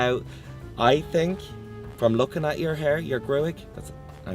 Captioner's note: talks in Irish